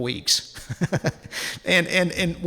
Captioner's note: laughs